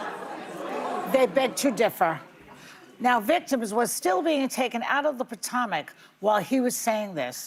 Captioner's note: audience reacts